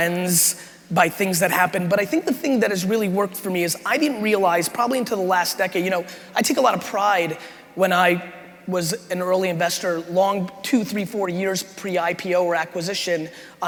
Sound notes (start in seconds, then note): none